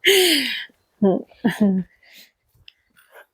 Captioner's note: laughter